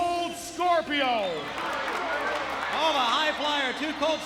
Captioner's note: audience cheers